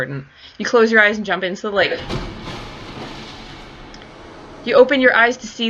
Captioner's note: sound of a large splash of water